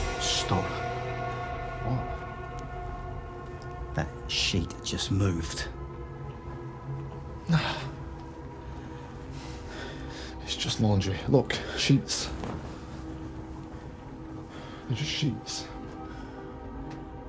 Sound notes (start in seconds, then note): 11.3 sheet rustling